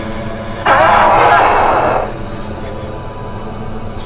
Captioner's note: growling